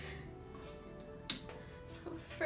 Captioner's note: light clicks on